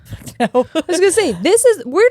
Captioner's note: giggling